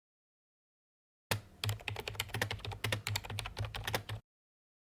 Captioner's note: typing